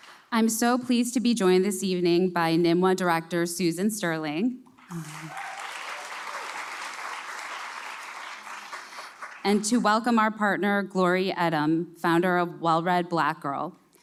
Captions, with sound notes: I’m so pleased to be joined this evening by NMWA Director Susan Sterling. (cheers) And to welcome our partner, Glory Edim, founder of Well-Read Black Girl...